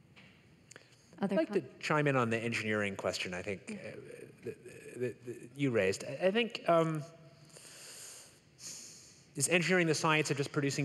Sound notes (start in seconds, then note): none